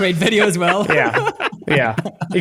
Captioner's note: laughing